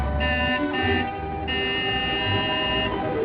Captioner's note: honking